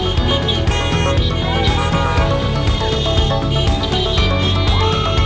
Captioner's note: crowd cheering